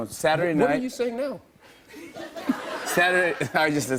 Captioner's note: light laughter